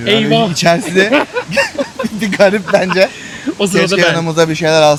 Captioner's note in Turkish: kahkaha